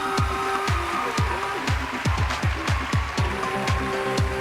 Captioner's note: cheering and applause